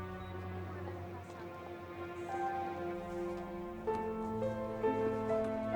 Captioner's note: students chattering; tense piano music